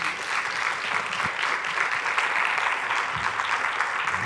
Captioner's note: applause